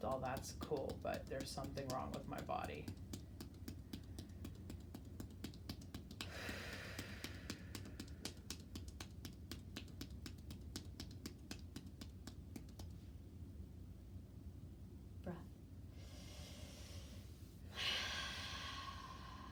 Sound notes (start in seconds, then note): 6.5 sighs; 8.1 hands tapping; 15.9 breathing deeply